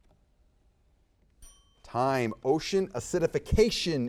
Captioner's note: timer dings